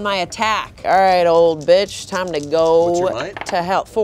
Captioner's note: beep